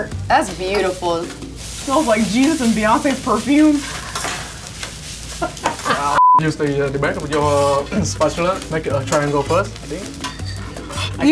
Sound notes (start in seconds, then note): 3.7 laughing; 6.1 beep